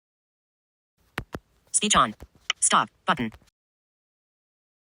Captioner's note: phone clicks